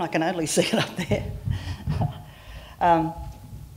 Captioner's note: laughter